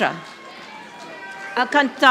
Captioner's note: audience applauding